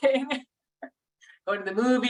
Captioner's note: chuckles